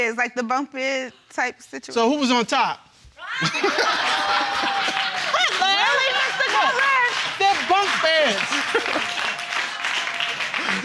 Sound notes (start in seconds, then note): 3.4 all laughing